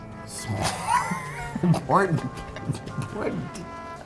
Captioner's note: laughs